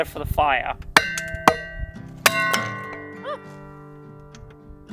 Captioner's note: hammer banging